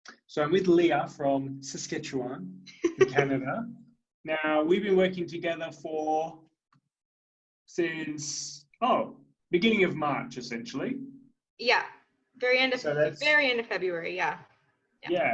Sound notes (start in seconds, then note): 2.8 laughing